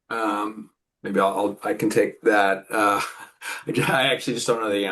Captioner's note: chuckles